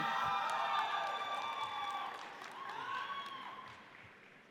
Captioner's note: audience cheers